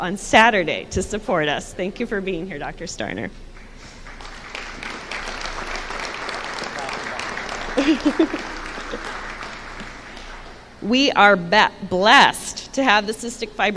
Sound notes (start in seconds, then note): 3.6 applause